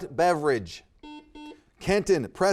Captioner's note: buzzer beeping